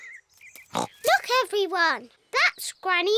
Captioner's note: oinks